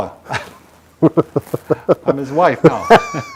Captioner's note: both laughing